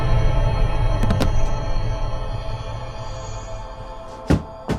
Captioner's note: body thuds